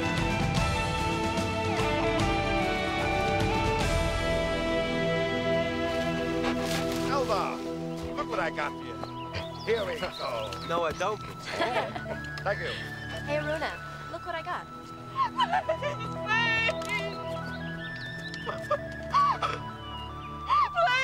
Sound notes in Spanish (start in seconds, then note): 11.4 riendo; 15.7 llorando; 17.4 música de flauta suave